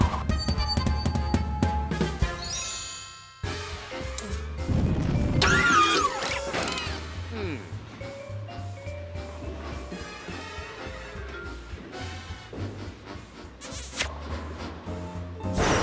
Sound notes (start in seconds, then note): 13.6 smooch